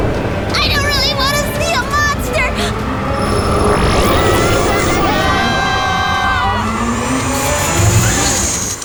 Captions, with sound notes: I don't really want to see a monster! [growl] [everyone screams]